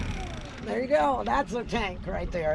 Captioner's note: chuckling